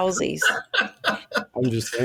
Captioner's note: laughing